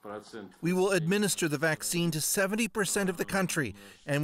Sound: speaking Foreign Language

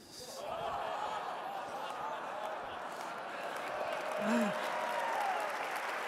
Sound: audience laughing and cheering

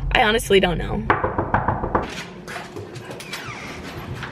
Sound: knocking

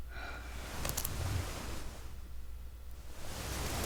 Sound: Youngwon's sighing

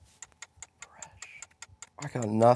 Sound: ticking

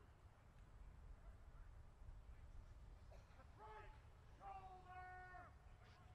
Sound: soldiers continues shouting commands

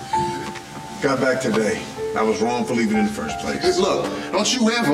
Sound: none

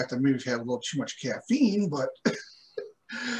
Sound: laughter

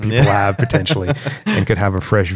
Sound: laughter

